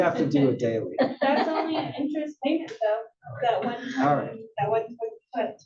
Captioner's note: laugh